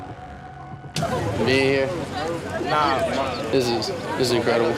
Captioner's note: background Conversation